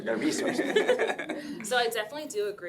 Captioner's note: laughing